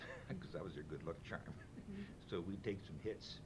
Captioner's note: chuckles